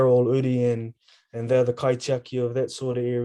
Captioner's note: speaking in foreign language